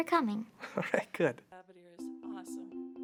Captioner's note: laughs